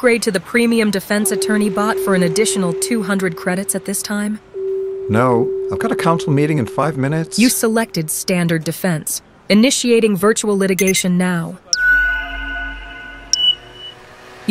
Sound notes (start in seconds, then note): 7.5 AI Voice; 13.3 pinging sound